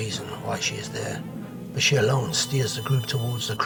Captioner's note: phone ringing